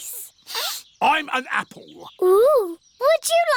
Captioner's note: sniffs